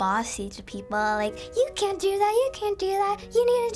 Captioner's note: bossily